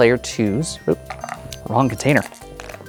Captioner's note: dice clattering; dice rattling